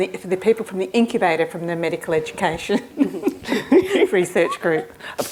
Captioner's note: laughs